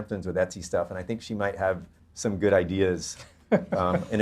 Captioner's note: laughs